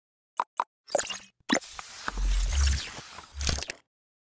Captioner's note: electronic whirring